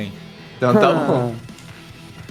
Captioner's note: chuckles